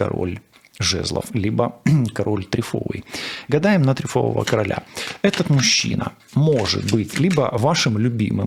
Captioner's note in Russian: откашливается